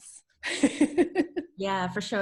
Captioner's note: laughs